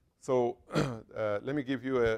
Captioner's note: cough